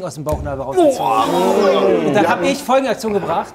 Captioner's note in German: Angeekelte Laute